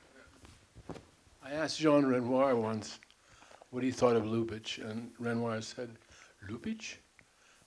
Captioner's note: French accent